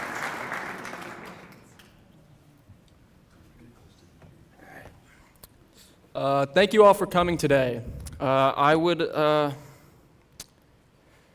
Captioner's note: applause